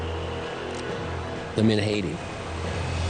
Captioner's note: cocking gun